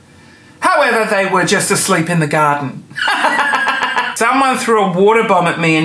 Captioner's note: laughing